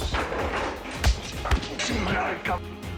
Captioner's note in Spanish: Golpes